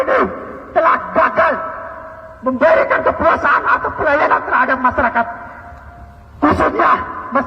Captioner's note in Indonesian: tertawa